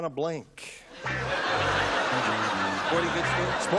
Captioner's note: laughter